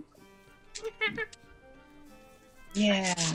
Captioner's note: monkey noises